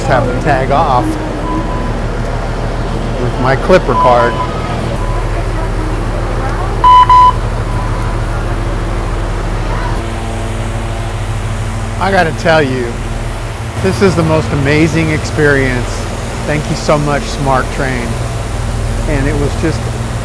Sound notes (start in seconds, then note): 6.8 beeping